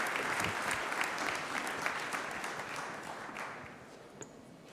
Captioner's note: applause